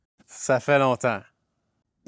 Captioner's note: in french